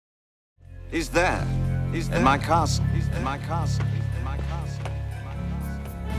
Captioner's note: echoing